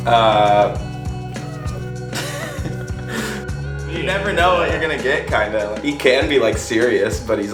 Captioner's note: laughs